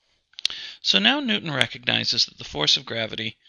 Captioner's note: voiceover